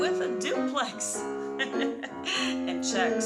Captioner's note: laughs